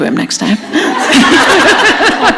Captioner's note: laughter